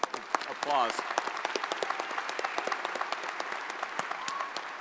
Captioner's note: audience applauds